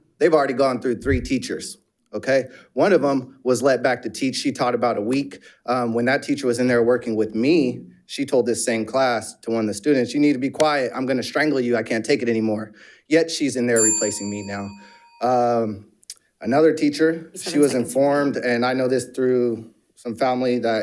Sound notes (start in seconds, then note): 13.7 bell dings